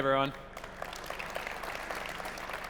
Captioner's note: applause